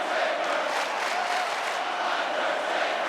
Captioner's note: audience clapping